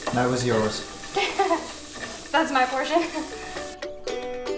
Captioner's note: laughter